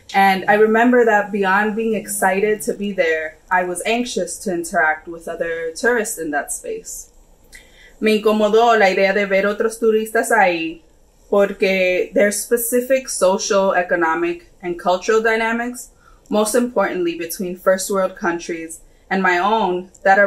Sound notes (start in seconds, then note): 8.3 speaks in foreign language